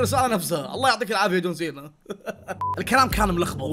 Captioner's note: laughs